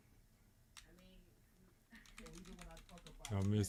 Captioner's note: blank Audio